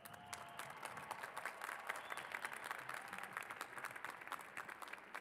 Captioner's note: cheers and applause